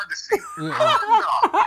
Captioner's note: laughing